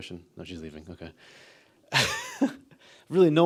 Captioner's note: laughs